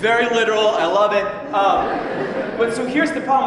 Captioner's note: laughter